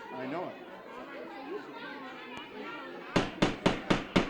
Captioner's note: audience yelling; gavel banging on table